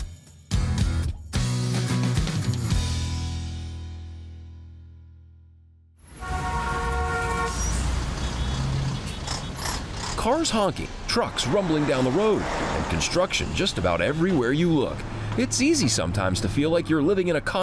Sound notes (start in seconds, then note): 6.5 traffic droning